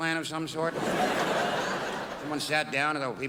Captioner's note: crowd laughs